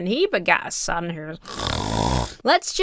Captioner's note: snores